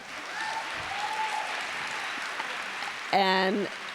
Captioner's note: applause